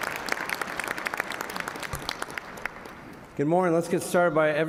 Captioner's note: applause